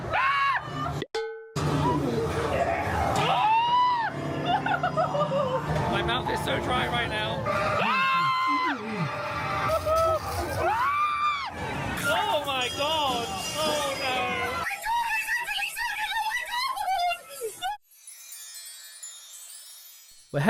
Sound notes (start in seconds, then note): 0.3 screams; 7.5 screams; 17.8 magical music